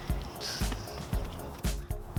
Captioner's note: laughing